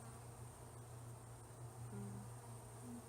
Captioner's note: tuneless humming